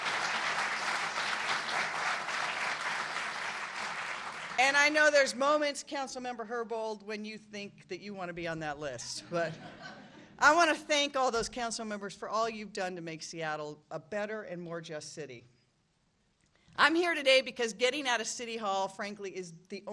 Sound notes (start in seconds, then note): 2.5 applause